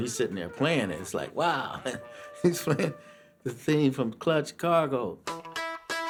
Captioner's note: chuckles